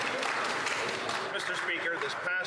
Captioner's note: some Applause